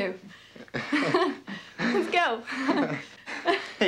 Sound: laughing

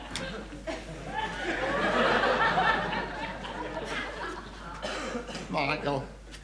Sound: audience laughing

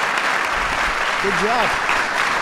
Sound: applause

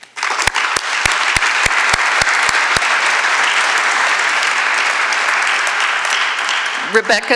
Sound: applause

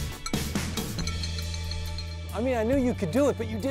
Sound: bell clanging

